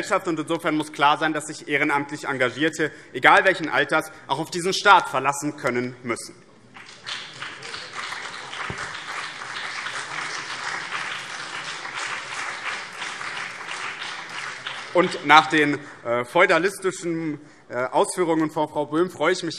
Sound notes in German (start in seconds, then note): 6.7 Beifall BÜNDNIS 90/DIE GRÜNEN und vereinzelt CDU